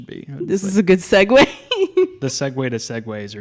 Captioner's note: laughs